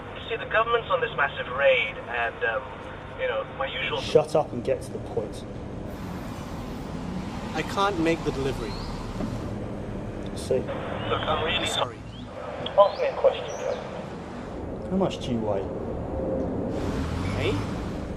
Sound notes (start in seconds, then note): none